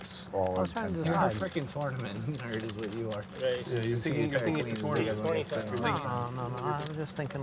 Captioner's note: chattering